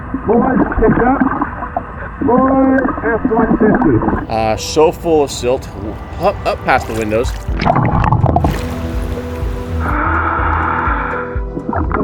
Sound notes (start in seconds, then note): 7.6 oxygen bubbling in water; 8.4 oxygen tank hissing